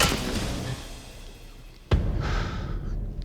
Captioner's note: thud